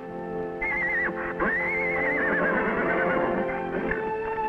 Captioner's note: Champ whinnying; dramatic music